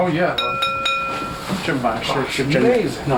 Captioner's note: bowl ringing; non-english speech